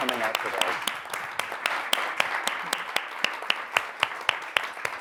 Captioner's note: applause continues